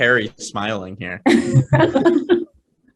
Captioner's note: laughing